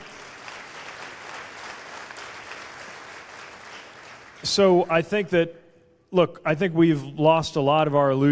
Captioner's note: cheers/applause